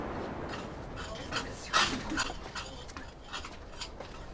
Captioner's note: chisel scraping